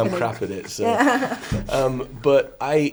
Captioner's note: all laugh